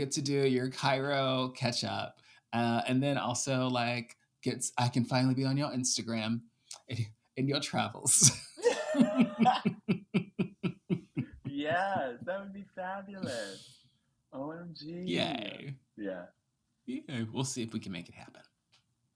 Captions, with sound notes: to do your Cairo catch up. And then also like gets, I can finally be on your Instagram in your travels. (laughing) - Yes, that would be fabulous. OMG. - Yay. - Yeah. We'll see if we can make it happen.